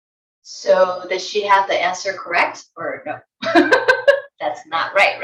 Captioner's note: giggles